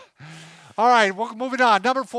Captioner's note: laughing